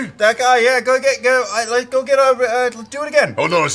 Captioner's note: stammering